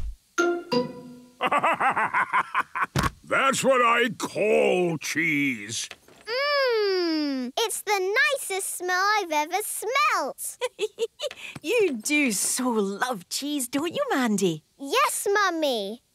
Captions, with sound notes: (bursting laughter) That's what I call cheese! - Mmmm! It's the nicest smell I've ever smelt! - (giggling) You do so love cheese, don't you, Mandy? - Yes, Mummy!